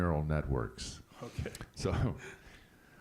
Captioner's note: laughs